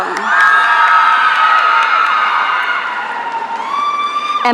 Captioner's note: audience cheering